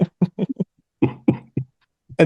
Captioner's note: laughs